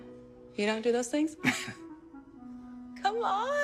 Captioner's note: chuckling nervously